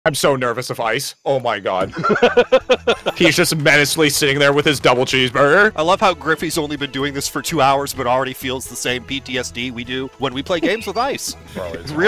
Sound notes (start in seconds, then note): 1.8 laughter